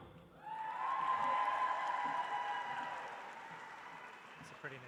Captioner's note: audience applauds